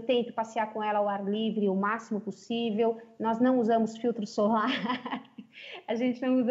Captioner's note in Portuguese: risos